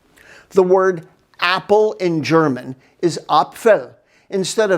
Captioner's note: speaks in German